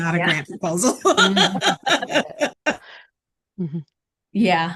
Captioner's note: laughs